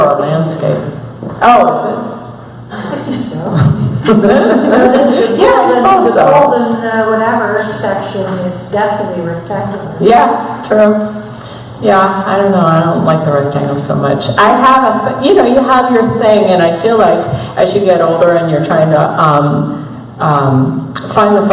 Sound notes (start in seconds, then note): 3.8 laughter